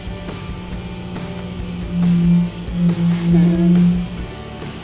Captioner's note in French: Bruits de vibration qui continuent